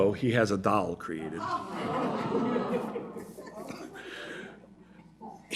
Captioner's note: audience groans